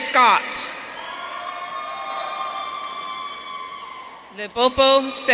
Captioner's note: audience cheering